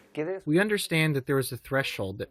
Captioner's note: through translator